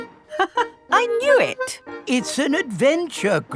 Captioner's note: laughs